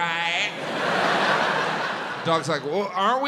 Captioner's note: audience laughs